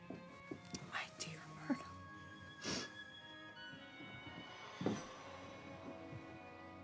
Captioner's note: sniffs